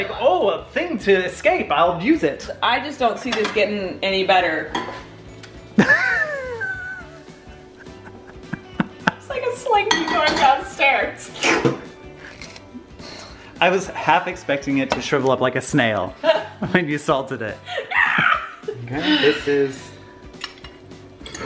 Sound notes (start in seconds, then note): 6.1 laughing; 17.7 laughing